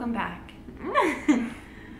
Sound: laughs

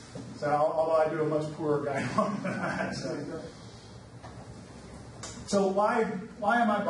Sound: laughs

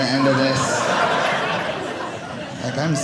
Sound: audience laughing

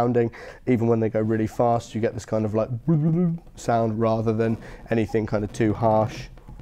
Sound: bubbling

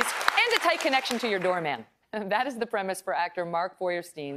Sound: applause

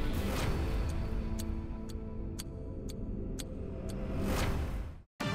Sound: clock ticking; upbeat music

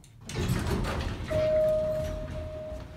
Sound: elevator Dink

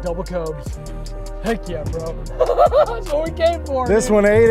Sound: laughs

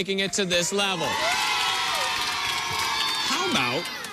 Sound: crowd cheering

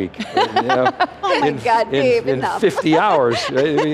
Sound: laughing

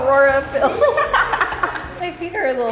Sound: laughs

